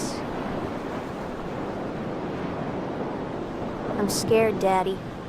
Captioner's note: water splashing